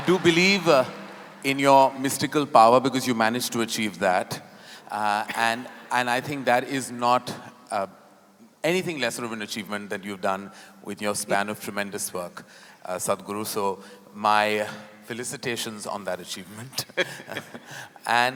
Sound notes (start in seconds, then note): 0.0 laughter/Applause; 9.9 Sadhguru laughs; 16.8 both laugh